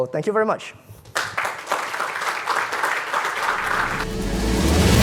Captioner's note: audience applauds; upbeat music